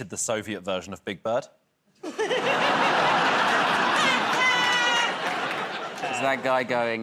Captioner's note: laughter